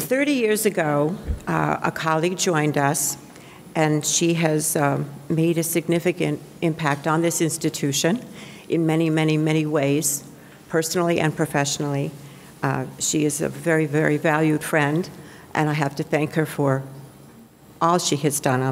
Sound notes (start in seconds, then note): none